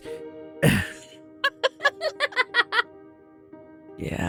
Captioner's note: laughs